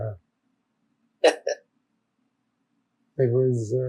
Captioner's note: laughing